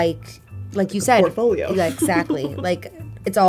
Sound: laughs

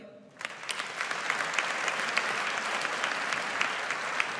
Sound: audience applauds

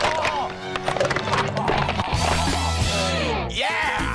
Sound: bones crushing

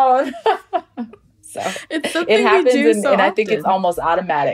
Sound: laughs

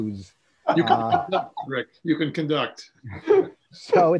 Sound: laughing

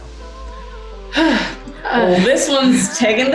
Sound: exhaling forcefully

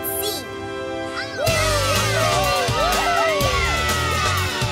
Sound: cheering

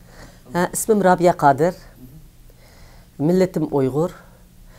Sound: speaks in foreign language

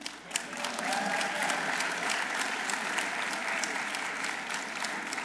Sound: audience applauding

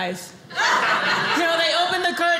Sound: audience laughing

